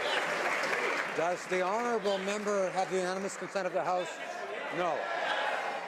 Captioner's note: some Applause